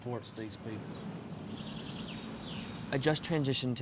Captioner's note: birds chirping